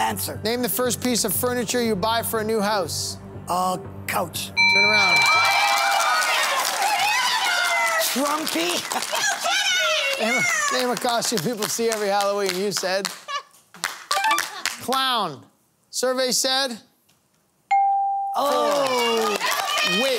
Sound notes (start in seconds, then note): 4.6 buzzer ringing; 7.5 cheering; 8.8 laughter